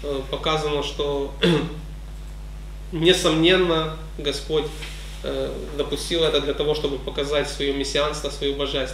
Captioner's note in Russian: прочищает горло